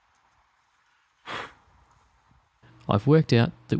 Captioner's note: blows Dust